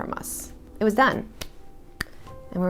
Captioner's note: clapping